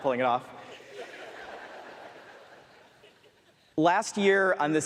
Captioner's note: more laughter from audience